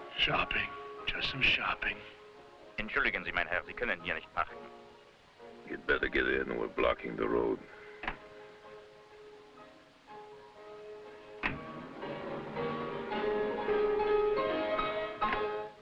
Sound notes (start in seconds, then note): 3.2 officer speaking foreign language